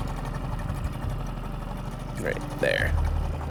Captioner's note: engine chugging; somber piano music